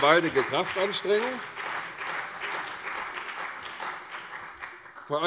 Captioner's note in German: Beifall bei der CDU und dem BÜNDNIS 90/DIE GRÜNEN